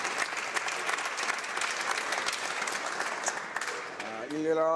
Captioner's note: some Applause